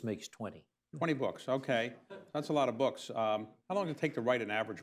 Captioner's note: laughter